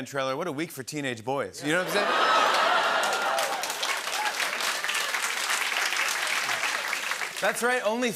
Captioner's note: cheers and applause